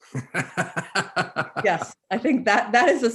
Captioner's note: chuckles